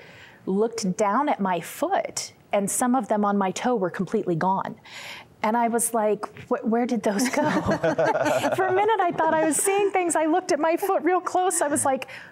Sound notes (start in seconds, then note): 7.1 laughter